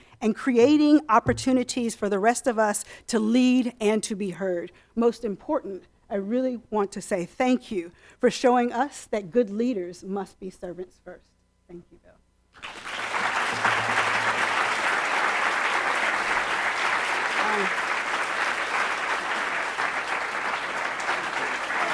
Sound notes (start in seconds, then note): 13.0 audience applauds